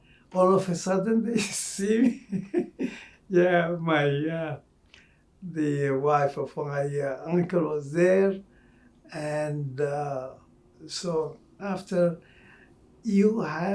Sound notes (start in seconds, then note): 0.4 laughing